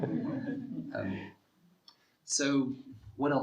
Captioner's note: students laughing